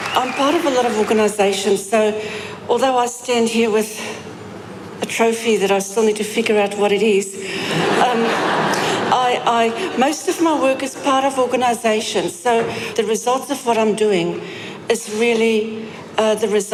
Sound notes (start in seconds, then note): 7.6 laughter